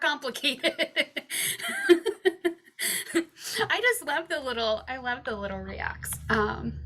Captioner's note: laughs